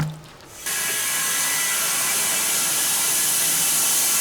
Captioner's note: saw buzzing